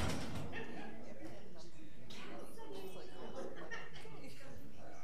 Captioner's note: people chattering